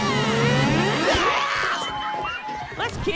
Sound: laughing; screaming

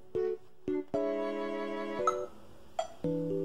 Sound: metronome beeping

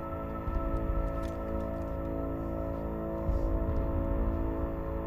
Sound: rustling

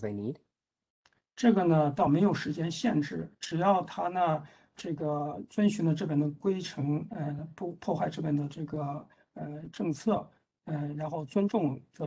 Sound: speaks in Mandarin

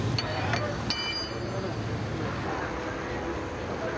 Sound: tool clanks

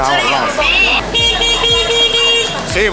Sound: edit: A motorcycle sounds the clacson

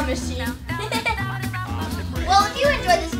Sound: giggling

